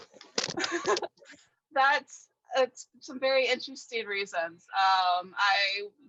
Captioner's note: laughing